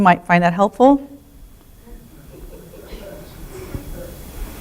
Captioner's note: laughter and chatter from audience